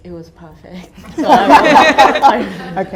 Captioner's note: audience laughter